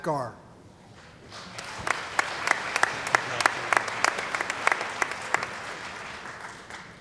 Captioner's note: applause